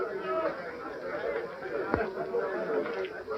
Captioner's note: none